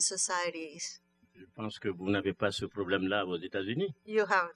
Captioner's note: speaking french